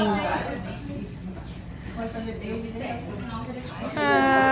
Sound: indistinct chatter in the background

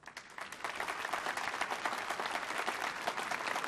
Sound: applause

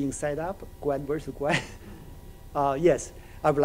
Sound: chuckles

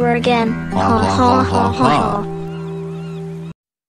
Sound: laughing

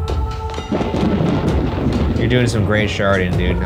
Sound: thunder booming

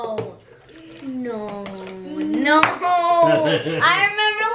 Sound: laughs

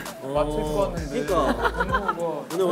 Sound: laughing

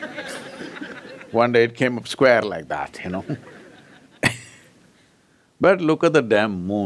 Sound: laughter; laughs

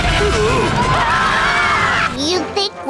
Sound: screaming

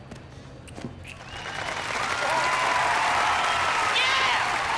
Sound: cheering

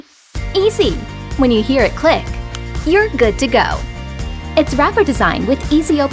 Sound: click sound

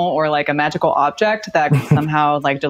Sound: all laugh

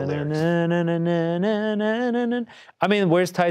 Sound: hums

